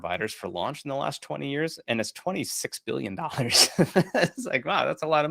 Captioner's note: laughs